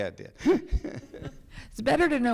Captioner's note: laughs